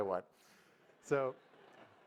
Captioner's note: audience laugh